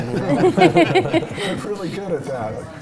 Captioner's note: panel laughing